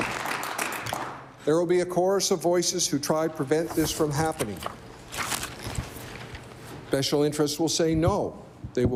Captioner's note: applause